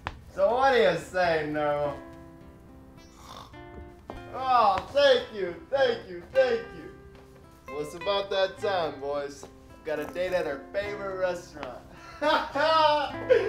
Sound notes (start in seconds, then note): 3.0 snort